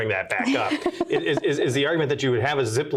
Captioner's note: laughs